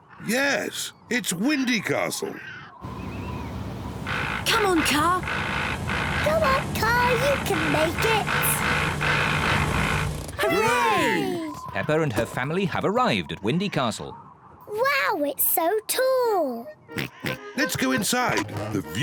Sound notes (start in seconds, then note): 3.9 car rattles; 9.2 car rattles; 10.4 all cheer; 16.9 oinking